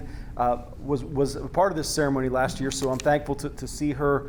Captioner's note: none